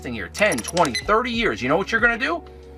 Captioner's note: keypad beeping